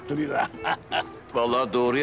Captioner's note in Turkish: Gülüyor